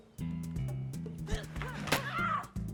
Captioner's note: grunting; screams